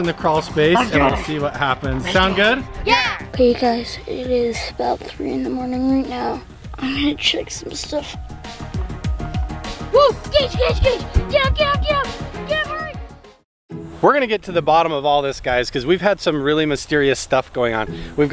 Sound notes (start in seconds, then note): 3.0 in Unison; 8.8 tense music; 9.9 child yelling